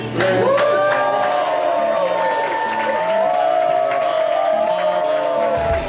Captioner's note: crowd clapping and cheering